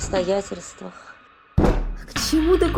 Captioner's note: the sound of a palm hitting the table surface